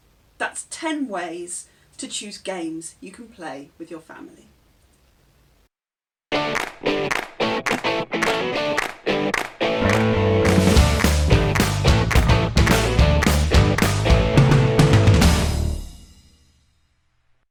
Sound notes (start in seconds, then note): 6.4 claps